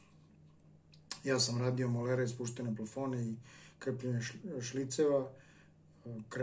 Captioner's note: electric ducts